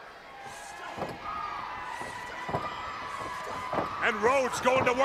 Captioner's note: crowd cheering